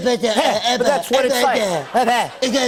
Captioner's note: speaking gibberish